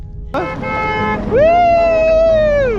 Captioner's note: car honks